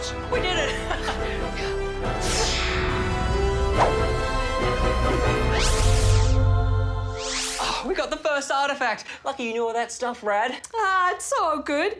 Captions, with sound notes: We did it! (LAUGHS) (ZAP!) (ANGELIC SINGING) Oh! We got the first artefact. Lucky you knew all that stuff, Rad. Ah, it's all good.